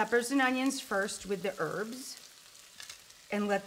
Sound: vegetables sizzle

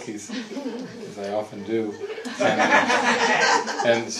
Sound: audience erupts in laughter

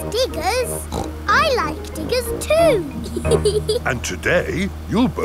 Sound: snorts; laughs

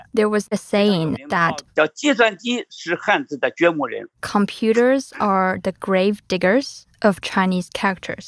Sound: speaking Mandarin

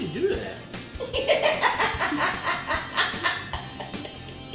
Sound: laughing

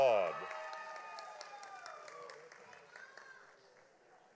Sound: audience applauding

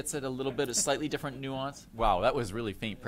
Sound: laughter

